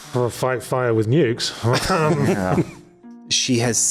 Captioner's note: laughs